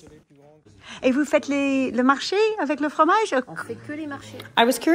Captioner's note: women speaking in foreign language